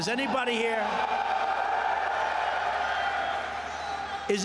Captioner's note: cheering and applause